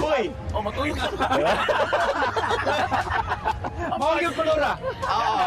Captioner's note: laughter